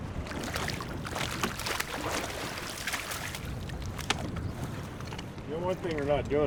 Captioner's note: fish splashing